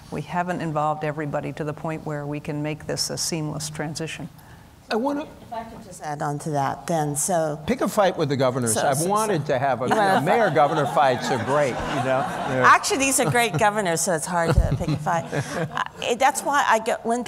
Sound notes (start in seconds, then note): 9.8 laughter